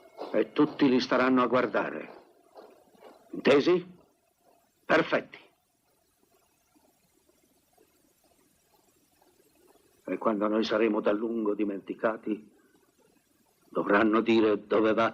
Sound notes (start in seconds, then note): 0.4 bagpipes fade; 4.1 marching fades